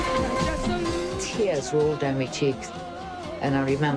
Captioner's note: in English